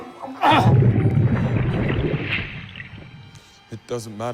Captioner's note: water bubbling